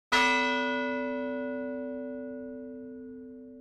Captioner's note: bell ringing